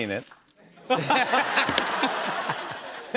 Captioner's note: both laugh